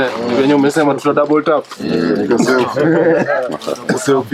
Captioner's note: laugh